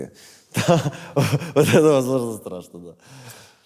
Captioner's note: laughs